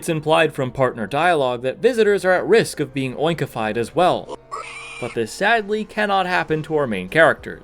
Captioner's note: Pigmask squeal